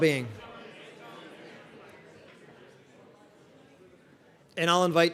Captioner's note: indistinct audience chatter